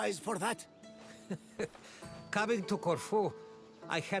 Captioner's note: laugh